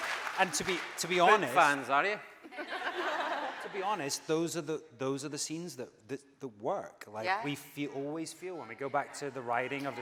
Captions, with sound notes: - And to be honest-- - Big fans are you? (audience laughing) - TO be honest, those are the scenes that work. Like we always feel when we go back to the writing